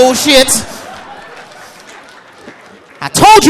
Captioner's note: audience applauding; audience laughing